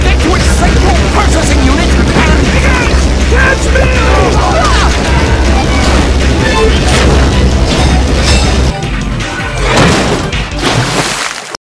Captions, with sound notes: get to its central processing unit, and... - Hey, guys, catch me! - No! (Barrier breaks) (Water Splashes)